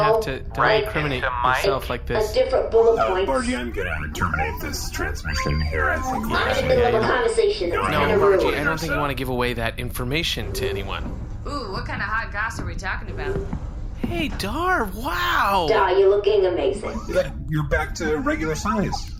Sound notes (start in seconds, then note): 6.2 call ends; 10.4 door opens